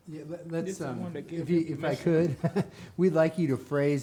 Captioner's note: laughs